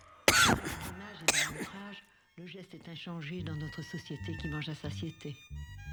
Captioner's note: speaking french